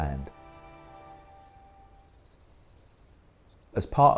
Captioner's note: beach sounds